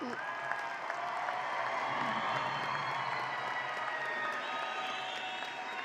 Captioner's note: audience applauding and cheering